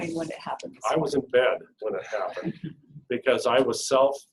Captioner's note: laughing